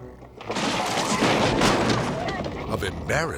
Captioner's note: coffin clattering